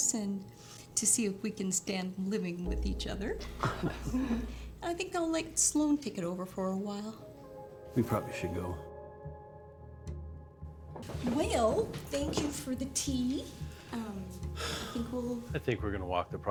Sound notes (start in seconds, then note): 3.6 all chuckling; 8.2 eerie music